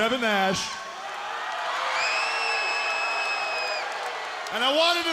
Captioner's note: audience cheering